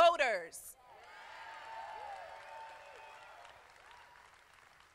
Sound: crowd applauding

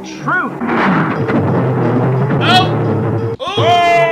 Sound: eerie warbling

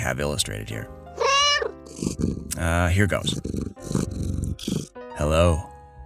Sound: meow

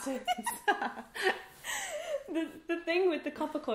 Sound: laughs

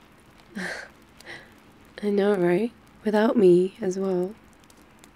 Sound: laughs

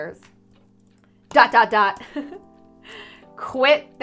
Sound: giggles

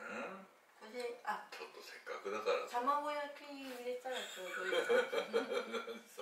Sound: laughs

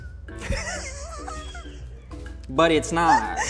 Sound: laughing

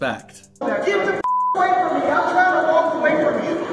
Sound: beep

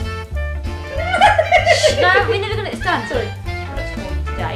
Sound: mum starts laughing

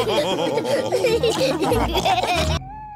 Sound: all laughing

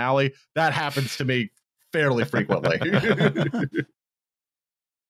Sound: laughter

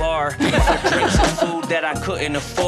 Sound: family laughing

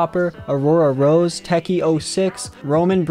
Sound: none

